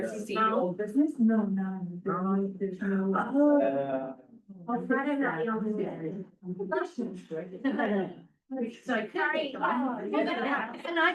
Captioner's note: many voices